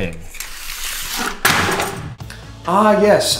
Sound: thud

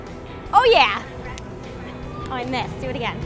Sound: hands smack

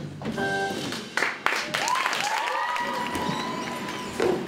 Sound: audience cheering

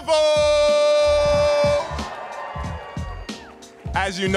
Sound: audience cheering

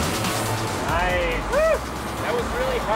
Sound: cheering from the crowd

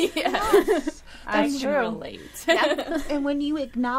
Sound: all laughing

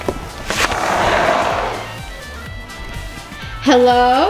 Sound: door slides open

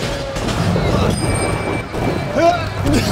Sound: crashing; bell ringing; grunting

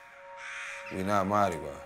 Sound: crows cawing

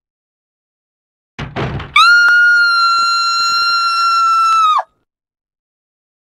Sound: Rebecca's Final Scream Before Her Death

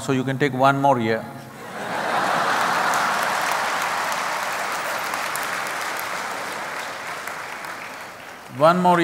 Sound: laughter/Applause

